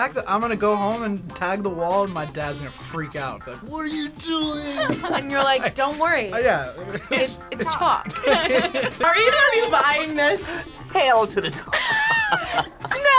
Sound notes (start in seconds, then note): 4.4 both laugh; 6.6 laughs; 6.7 both laugh; 11.5 laughs